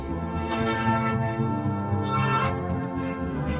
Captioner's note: groans, screams through teeth